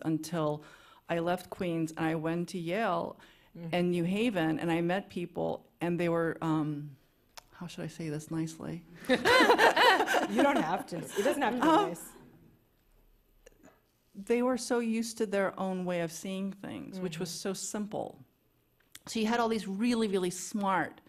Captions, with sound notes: until I left Queens and I went to Yale and New Haven and I met people, and they were, um, how should I say this nicely? [laughter] -You don't have to, it doesn't have to be nice. -They were so used to their own way of seeing things which was so simple. So you had all these really, really smart,